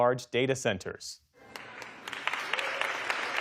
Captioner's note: cheering